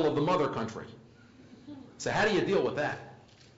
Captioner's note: laugh